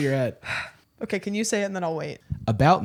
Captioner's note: sighs